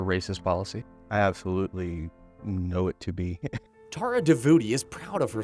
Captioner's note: chuckles